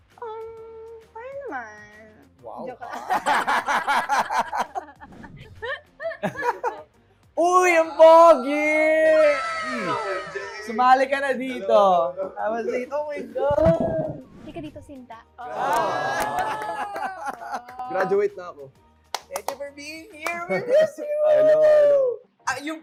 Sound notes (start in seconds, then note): 2.9 laughing; 16.1 giggling